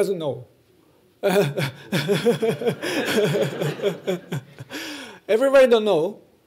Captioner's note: laughter